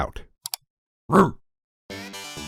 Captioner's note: click